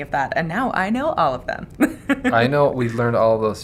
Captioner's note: laughing